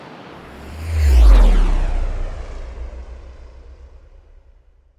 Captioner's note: rocket whooshing